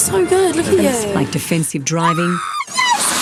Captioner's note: screaming